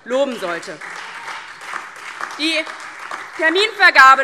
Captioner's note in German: Beifall DIE LINKE und SPD